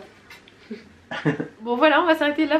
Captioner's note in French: rires